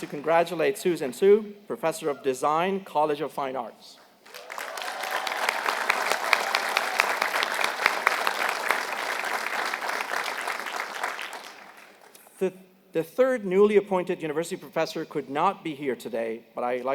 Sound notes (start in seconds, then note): 4.2 applause